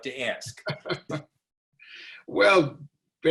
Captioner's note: laughing